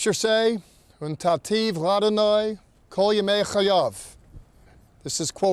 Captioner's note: speaking in Hebrew